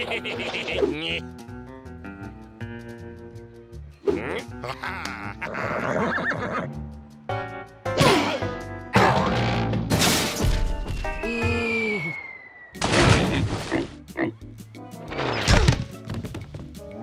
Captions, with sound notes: HEH HEH HEH HEH! NYUK. AHA! HA HA! (neighs) OH! (crash) (air whistling) (oink oink) OOH!